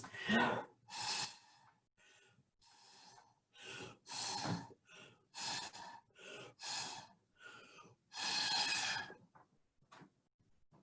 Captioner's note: blowing Through Straw